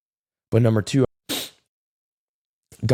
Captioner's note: sniff